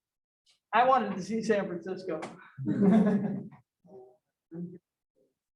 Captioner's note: laughter